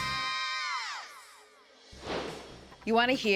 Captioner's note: air swish